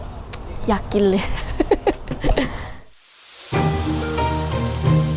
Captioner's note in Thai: เสียงหัวเราะ